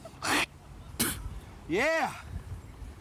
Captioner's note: Dusty spitting